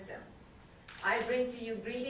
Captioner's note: camera clicks